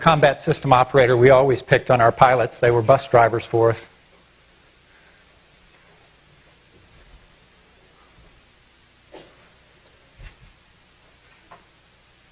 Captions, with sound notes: I was a combat system operator, we always picked on our pilots. They were bus drivers for us. (silence)